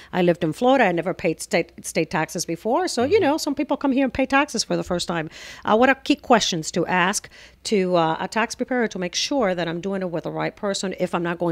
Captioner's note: Hablando ingl\s